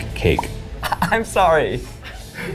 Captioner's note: laughs